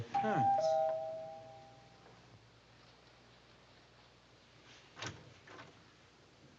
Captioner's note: doorbell rings